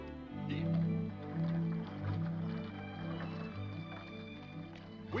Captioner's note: horse hooves clopping; gentle music